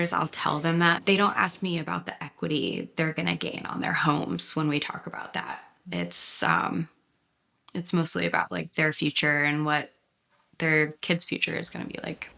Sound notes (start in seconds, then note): none